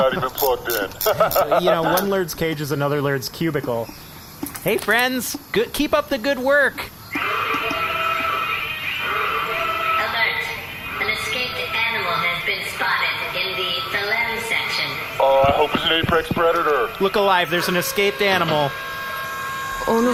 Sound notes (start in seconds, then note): 8.4 alarm sounding